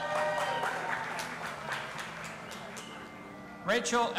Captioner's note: audience applauding and cheering